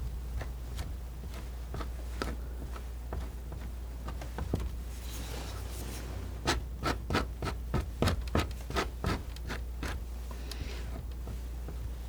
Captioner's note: scratching